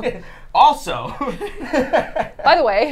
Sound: laughing

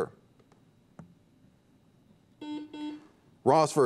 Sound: buzzer beeps

